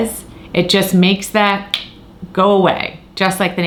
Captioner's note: snaps